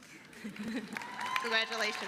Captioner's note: applause